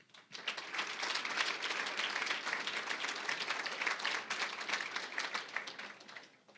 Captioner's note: applause